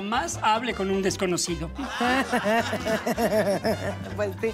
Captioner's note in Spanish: Risas